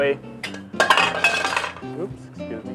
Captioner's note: clattering